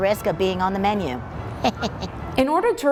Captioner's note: laughs